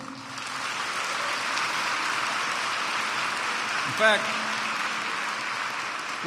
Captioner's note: applause